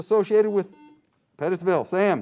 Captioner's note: buzzing sound